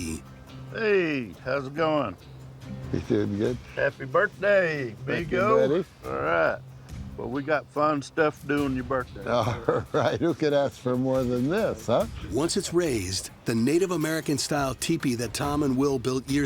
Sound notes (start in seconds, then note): 9.4 laughing